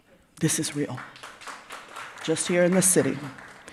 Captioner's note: audience applauds